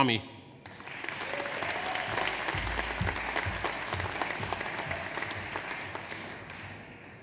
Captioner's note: audience applauds; audience cheers